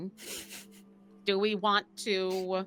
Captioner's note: snickers